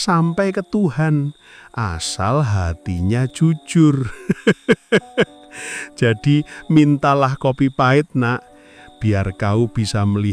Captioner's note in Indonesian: tertawa